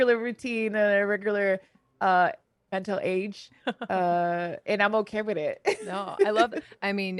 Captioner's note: laughs